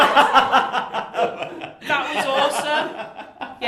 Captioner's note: laughing